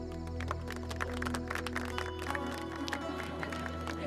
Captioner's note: All clapping